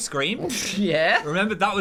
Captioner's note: chuckling